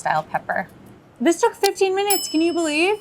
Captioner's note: bell dinging